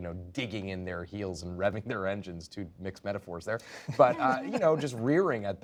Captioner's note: laughter